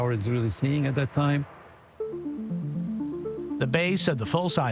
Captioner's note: none